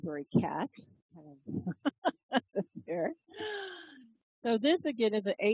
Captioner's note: laugh